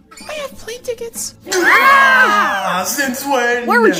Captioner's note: all yell